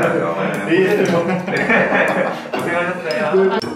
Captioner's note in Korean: 발치 asmrㅋㅋㅋㅋㅋㅋ